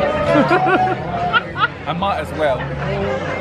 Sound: laughs

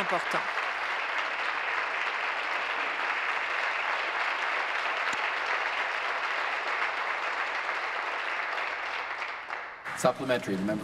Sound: applause

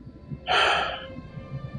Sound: sighs

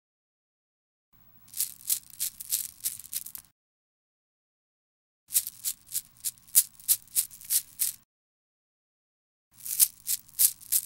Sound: christmas bells shake

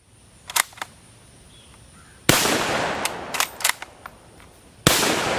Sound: bolt sliding; rifle firing

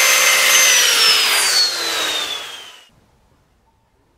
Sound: saw powering down

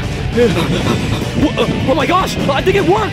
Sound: Sonic panting; Mario panting; upbeat music

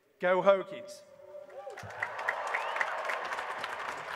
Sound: applause

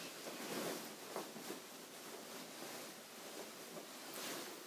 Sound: petticoat rustling

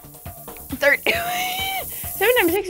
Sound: laughs

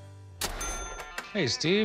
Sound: register dings

